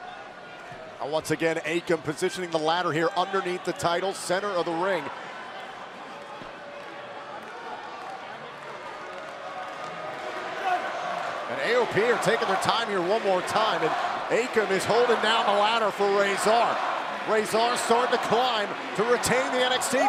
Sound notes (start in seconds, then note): 6.6 crowd chatter